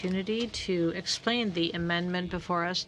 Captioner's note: speaking French